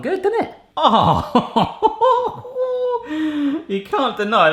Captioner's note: groans; laughs